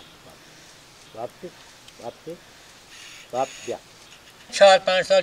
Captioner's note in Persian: صدای صحبت کردن با گاندوها